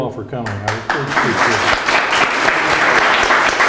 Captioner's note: claps